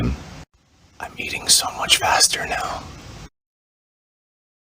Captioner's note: whispered